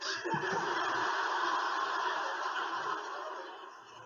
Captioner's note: audience laughing